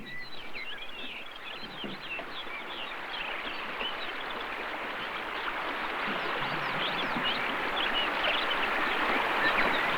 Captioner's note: sounds of water running in river